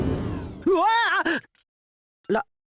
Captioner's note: panicked gasp